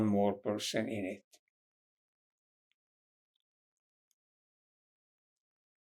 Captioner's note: pauses 6 seconds